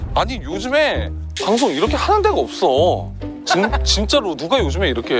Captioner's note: suddenly starts grumbling